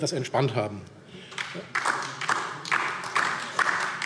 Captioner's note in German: Beifall DIE LINKE